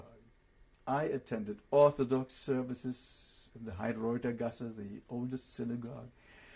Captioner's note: german